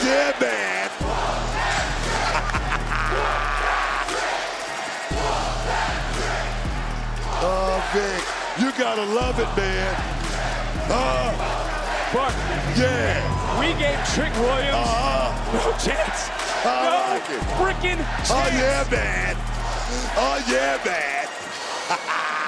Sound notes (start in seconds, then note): 2.0 laughing; 4.2 crowd chants; 21.6 laughing